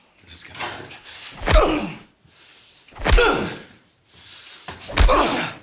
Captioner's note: punches thudding